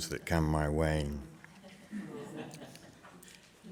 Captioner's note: chuckling